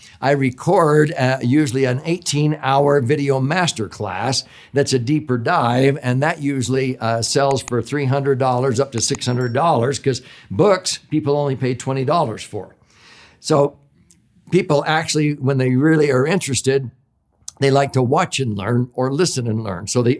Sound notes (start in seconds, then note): 7.0 mouse clicking; 7.5 bell rings